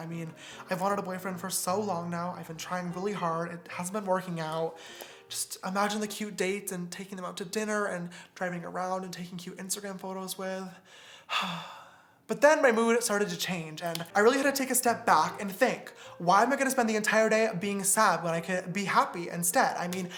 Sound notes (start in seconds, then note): 11.2 man sighs